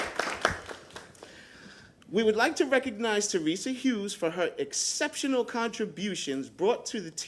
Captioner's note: applause